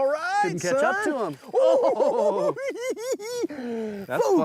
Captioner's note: giggling